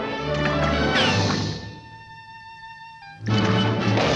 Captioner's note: water splashing; water rippling; water splashing